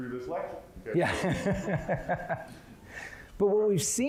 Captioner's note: laughing